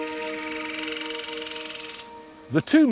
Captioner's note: animals chirruping